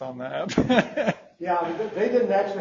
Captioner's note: laughs